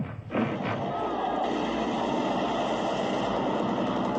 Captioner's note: explosions boom